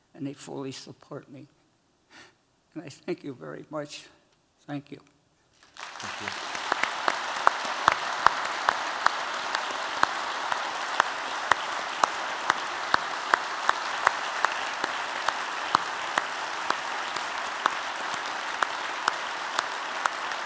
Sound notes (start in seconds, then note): 5.6 applause